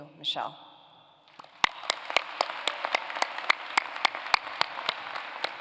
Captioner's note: applause